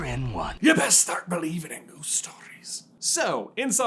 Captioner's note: accented